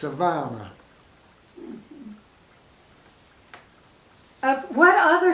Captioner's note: silence